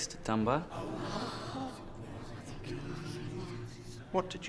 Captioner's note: students gasp